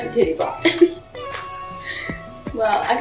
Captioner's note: Cheyanne laughs